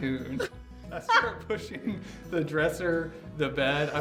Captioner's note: laughs